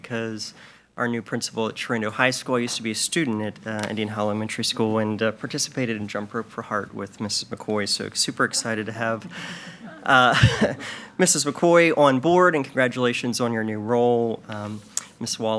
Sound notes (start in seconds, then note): 8.3 chuckles; 8.4 attendees laugh faintly